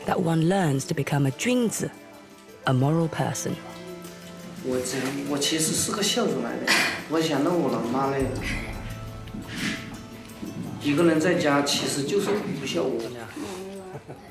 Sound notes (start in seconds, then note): 5.2 hablan un idioma extranjero